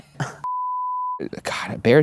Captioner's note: beep